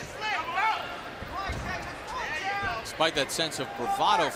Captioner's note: corners shouting